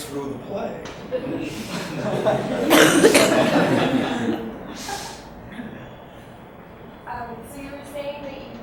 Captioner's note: audience laughs